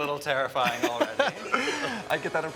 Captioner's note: chuckling